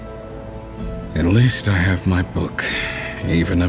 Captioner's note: suspiro